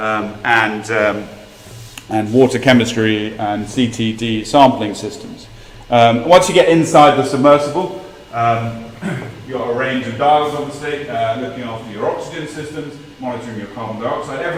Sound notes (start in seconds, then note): 8.9 cough